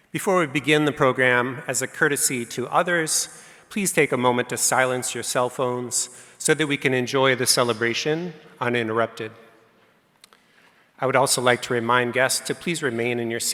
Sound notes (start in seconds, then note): none